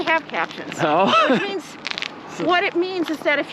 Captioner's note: laughs